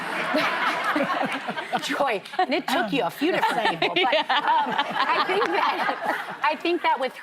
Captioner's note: laughter